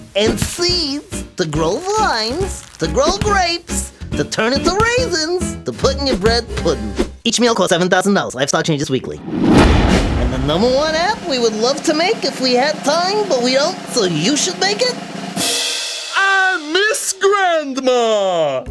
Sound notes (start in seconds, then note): 7.1 talking quickly; 15.2 cymbal crash